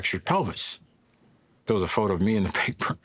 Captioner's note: laughs